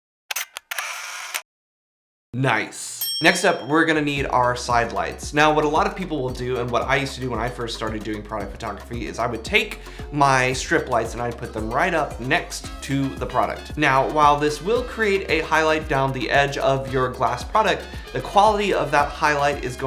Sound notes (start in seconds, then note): 0.3 camera snaps; 3.0 bell dings